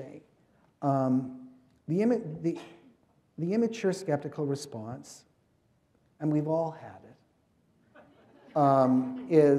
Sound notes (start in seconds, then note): 7.9 laughter